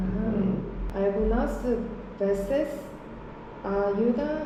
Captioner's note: reading English words as they are pronounced in Spanish